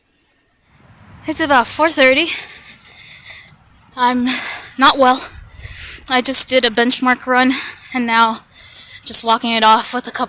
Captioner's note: breathing heavy